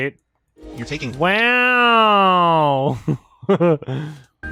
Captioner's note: sarcastically; chuckles